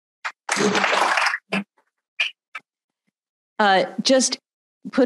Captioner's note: audience applauding